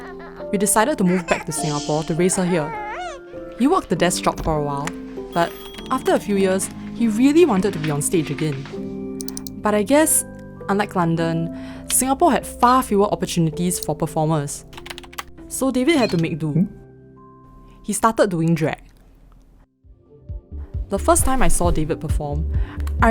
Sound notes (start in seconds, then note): 9.2 mouse clicks; 14.7 typing